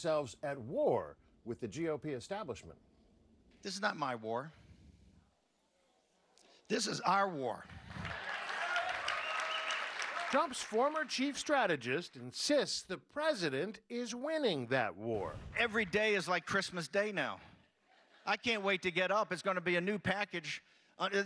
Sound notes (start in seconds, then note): 10.7 cheers and applause